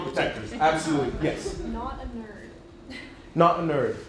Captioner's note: laughs